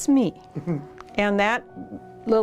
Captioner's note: laughs